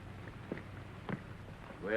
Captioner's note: none